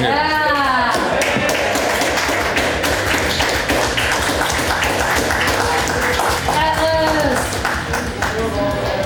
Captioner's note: crowd cheering and applause